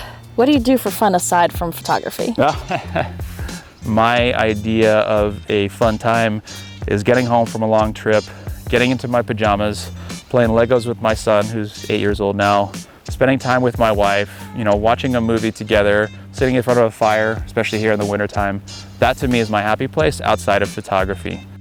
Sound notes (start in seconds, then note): 2.1 laughs